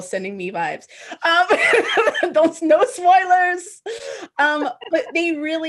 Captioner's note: laughs